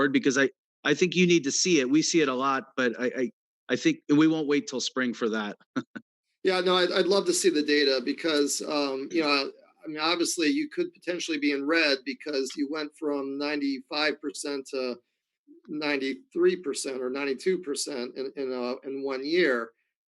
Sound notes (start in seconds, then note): 5.7 chuckles